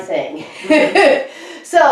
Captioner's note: laughs